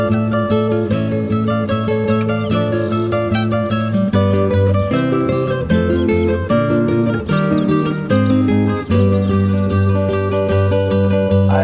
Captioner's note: evening birds